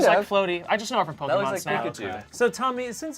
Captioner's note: overlapping chattering